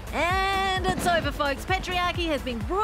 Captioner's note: fireworks exploding sound